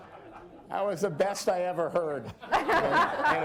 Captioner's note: laughter